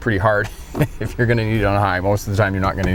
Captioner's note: chuckling